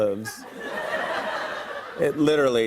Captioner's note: laughter